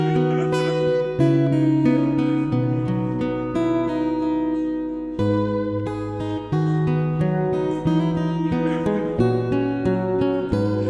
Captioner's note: tears of happiness